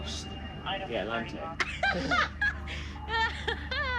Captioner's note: laughter